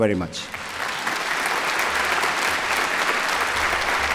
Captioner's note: applause